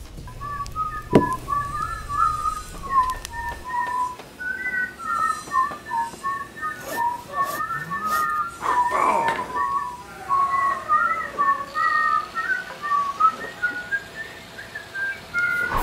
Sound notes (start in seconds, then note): 0.3 people whistling; 3.8 background workshop sounds